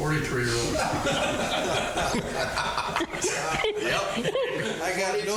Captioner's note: all laughing